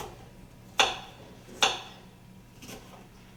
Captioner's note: chopping sounds